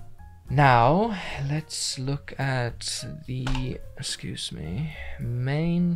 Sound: bonks something

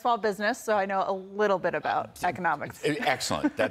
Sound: laughter

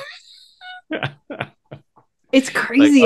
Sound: laughing

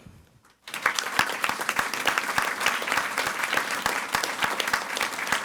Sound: audience applauding

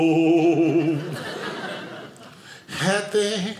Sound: audience laughing

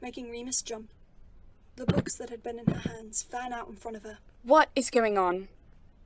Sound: books falling down

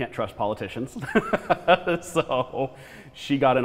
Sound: laughs

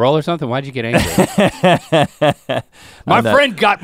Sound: Rhett laughs

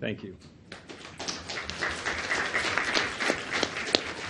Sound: audience applauds

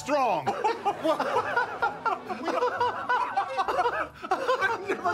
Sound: laughter

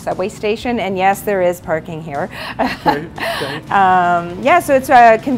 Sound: laughs

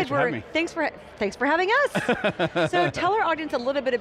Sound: laughing

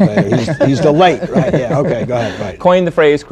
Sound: laughter

